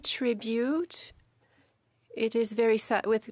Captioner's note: speaking French